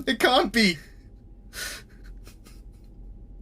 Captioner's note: Bob starts softly sobbing